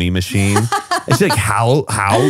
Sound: laughs

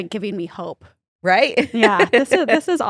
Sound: laughs

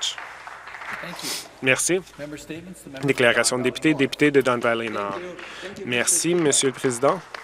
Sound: some Applause

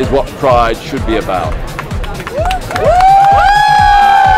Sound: cheering

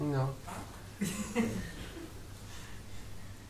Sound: laughter

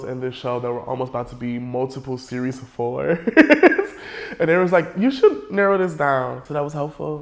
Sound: laughs

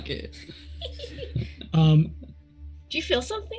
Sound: group laughs

